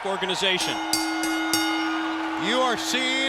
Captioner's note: bell dings